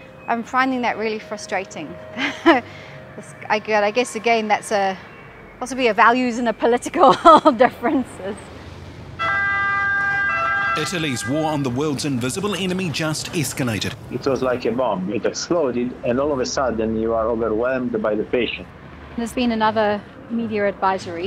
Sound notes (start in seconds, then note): 8.2 sirens